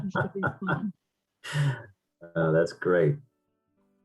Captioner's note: laughs